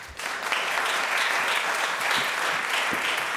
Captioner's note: applause